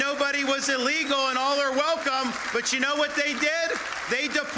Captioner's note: applause